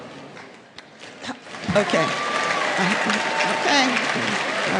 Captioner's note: applause